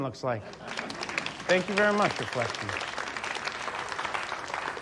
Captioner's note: audience laughing, applauding